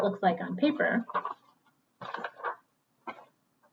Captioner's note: papers rustling